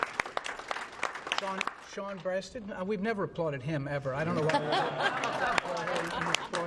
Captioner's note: applause